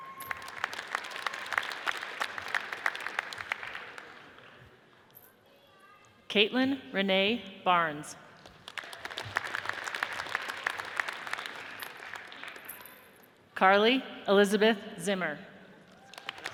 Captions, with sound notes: (audience cheers and applauds) Kaitlyn Renee Barnes, (audience applauds) Carly Elizabeth Zimmer,